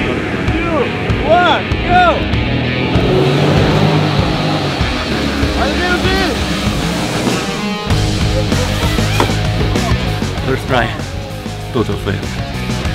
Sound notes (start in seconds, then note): 2.3 motor engine revving; 5.2 in Slovenian; 6.9 rock music; 9.1 splash